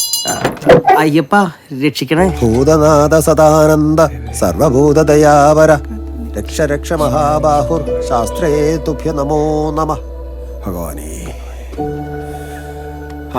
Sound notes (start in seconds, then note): 3.2 chanting